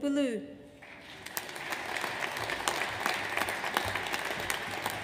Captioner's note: audience applauds